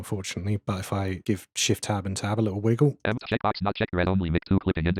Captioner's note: automated voice